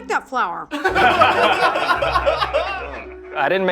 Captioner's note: everyone laughs